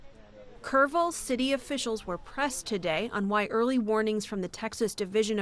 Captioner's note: voice-over